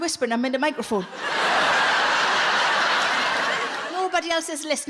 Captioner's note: audience laughs